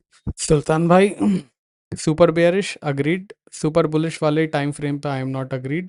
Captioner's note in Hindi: गला साफ़ करने की आवाज़